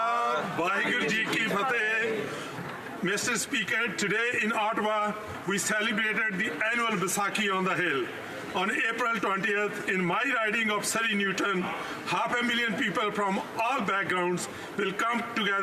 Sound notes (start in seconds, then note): 6.0 speaking alternate language